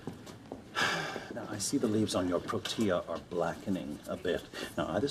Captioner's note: sighing